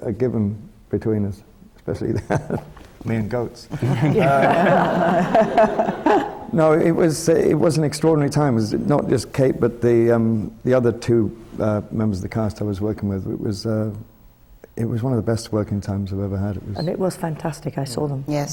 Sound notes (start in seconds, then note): 3.7 laughs; 3.7 laughter